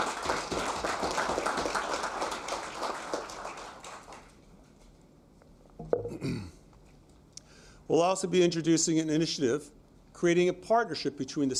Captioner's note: applause